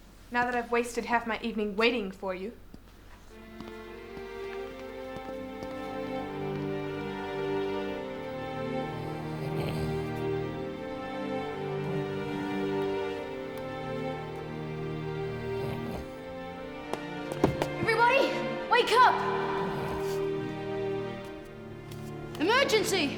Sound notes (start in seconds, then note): 8.6 Ryan snores